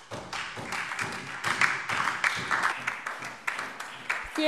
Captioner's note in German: Beifall Freie Demokraten, SPD und DIE LINKE